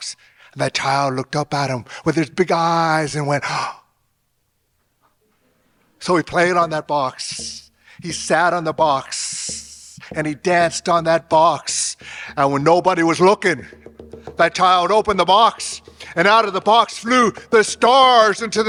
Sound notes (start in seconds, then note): 3.4 gasping in awe